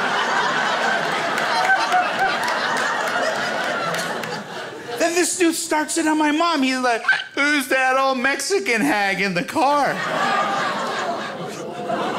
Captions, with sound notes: Then this dude starts into my mom. He's like, "(hic) Who's that old Mexican hag in the car?"